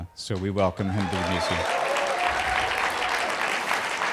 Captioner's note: cheers and applause